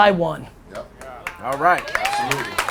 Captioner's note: audience applause